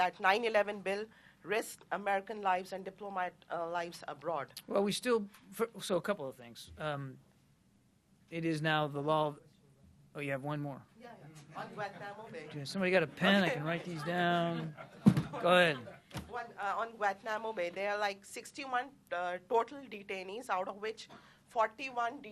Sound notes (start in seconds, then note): 11.9 laughter; 13.8 laughter